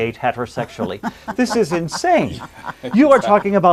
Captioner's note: laughing